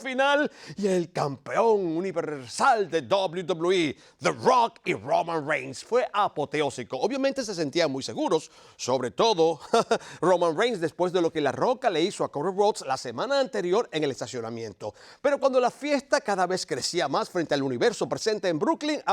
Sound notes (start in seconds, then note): 9.6 laugh